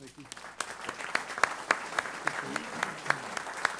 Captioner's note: applause